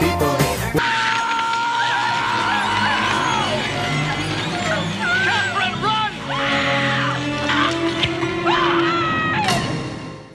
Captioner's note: screaming